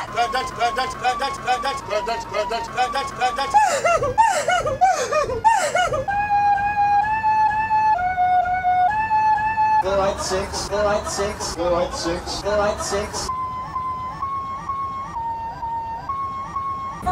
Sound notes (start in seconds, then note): 3.5 cries X4